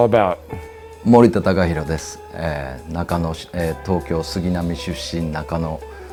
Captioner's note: speaking in foreign language